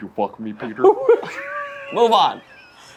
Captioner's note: laughs